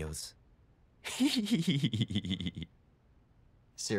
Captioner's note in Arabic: يضحك